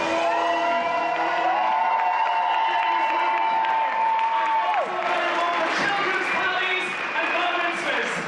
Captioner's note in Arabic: تصفيق وهتاف